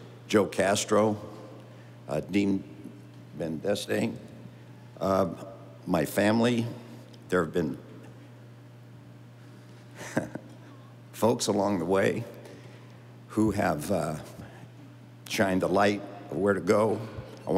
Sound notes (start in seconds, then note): 10.0 laughing